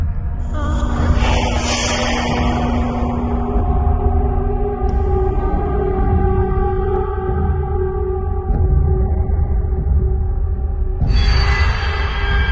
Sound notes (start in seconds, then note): 1.0 steam vents expel air; 3.4 eerie ringing